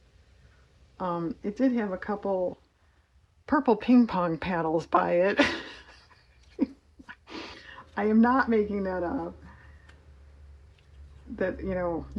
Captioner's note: laughs